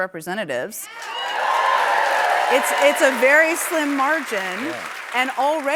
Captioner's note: cheers and applause